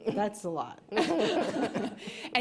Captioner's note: laughter